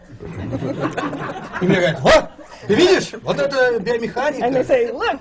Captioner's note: laughter; foreign language not transcribed